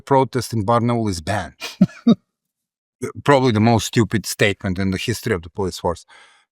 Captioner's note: laugh